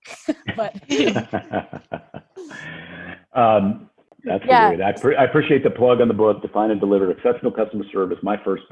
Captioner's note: laughs